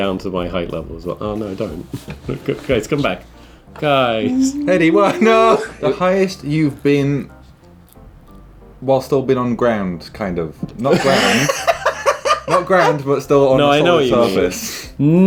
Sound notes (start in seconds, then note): 4.2 humming; 10.9 laughing